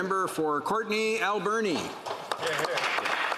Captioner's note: some Applause